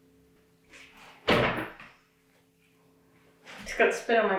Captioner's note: thump